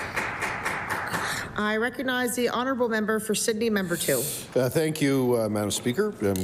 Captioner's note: applause